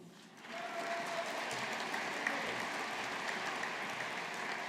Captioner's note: audience applauding